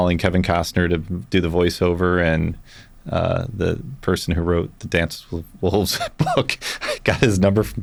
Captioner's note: laughs